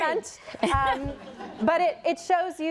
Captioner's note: laughter